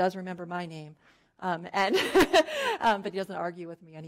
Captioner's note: laughing